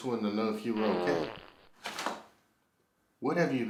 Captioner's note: Arizona farts